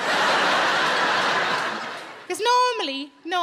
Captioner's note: audience laughing